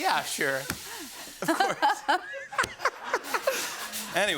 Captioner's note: laughing